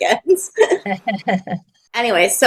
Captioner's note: laughing